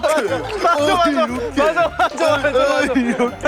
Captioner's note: cracking up